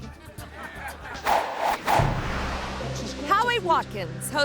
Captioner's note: audience laughing; graphics whooshing